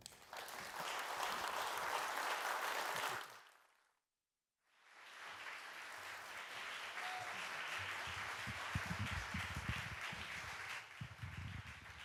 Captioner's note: applause